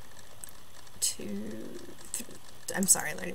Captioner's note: Arabic